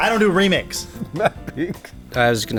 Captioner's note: laughing